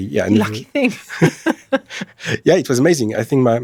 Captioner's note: laughter